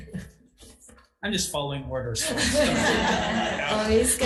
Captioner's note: attendees laughing